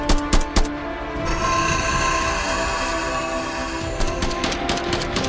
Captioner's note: beast shrieks; gun blasting